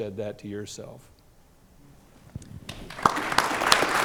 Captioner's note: applause